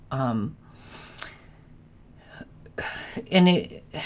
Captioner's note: sighs